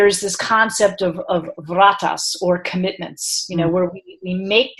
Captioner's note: speaking in foreign language